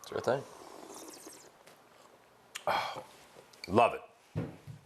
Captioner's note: Ming slurps and exhales